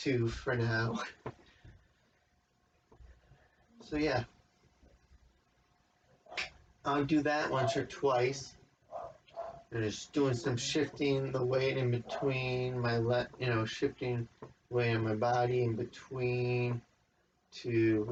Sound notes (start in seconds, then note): 6.3 snap noise in background; 8.9 dogs barking; 12.0 dogs continue barking